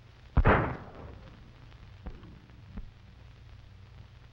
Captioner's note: gunshot banging